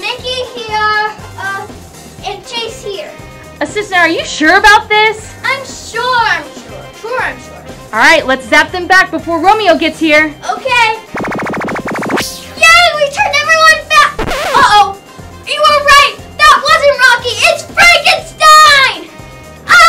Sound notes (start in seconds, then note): 11.0 laser zapping; 14.1 noise signal